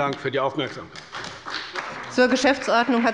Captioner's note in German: Beifall bei der CDU und dem BÜNDNIS 90/DIE GRÜNEN